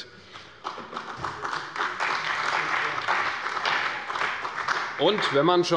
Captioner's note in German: Beifall bei der CDU und dem BÜNDNIS 90/DIE GRÜNEN